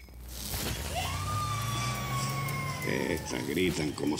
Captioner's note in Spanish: chasquido eléctrico; gritos de mujer; chasquido eléctrico; gritos de mujer